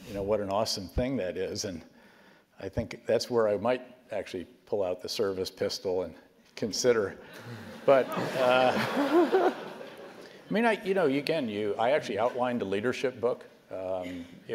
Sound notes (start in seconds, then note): 7.4 laugh